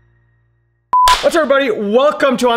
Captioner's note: clapping